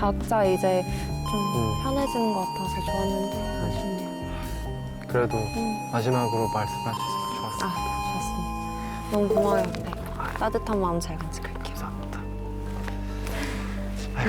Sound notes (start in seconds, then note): 1.0 The bell signaling the end of the 10 MINUTE TALK rings